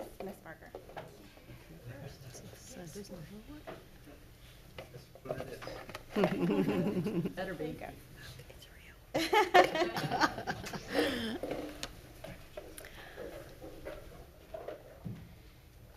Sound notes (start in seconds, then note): 9.1 laughs